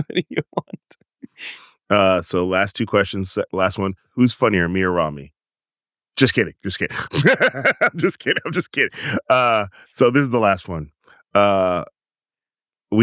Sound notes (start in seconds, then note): 6.9 laughs